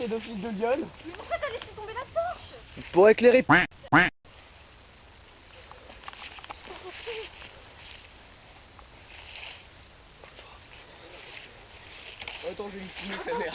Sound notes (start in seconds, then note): 0.3 camera operator speaking in foreign language; 1.9 camper speaking in foreign language; 3.7 camera operator speaking in foreign language